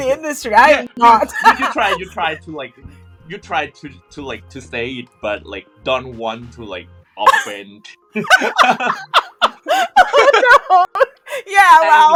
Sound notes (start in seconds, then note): 8.1 laughter